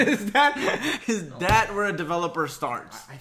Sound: laughs

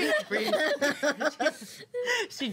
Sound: girls laughing

